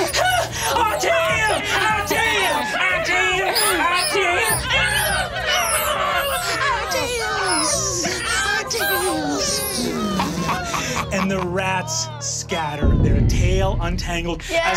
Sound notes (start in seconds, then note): 4.7 rats chattering